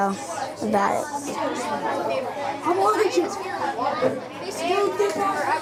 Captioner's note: students chattering